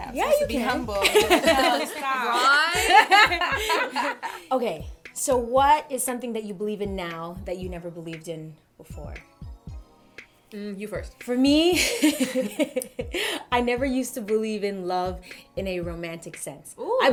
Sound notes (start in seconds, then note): 1.0 laughter; 12.2 laughing